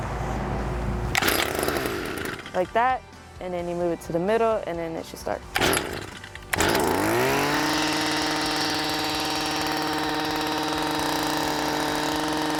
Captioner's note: Rototiller running